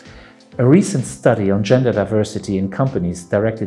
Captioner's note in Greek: αγγλικά